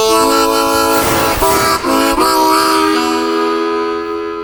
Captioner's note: metal clanging